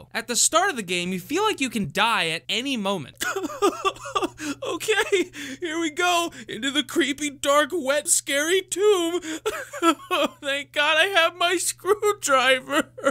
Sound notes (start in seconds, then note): 3.2 cowardly noises; 9.0 cowardly noises